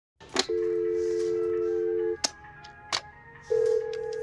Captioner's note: dial tone rings